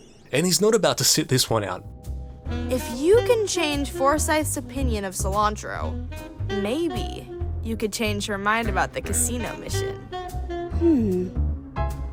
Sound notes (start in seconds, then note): none